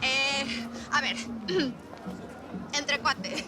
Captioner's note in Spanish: Carraspea